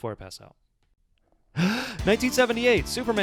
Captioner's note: inhales deeply